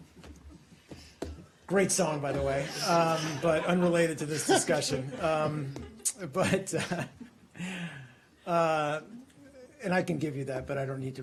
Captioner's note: laughter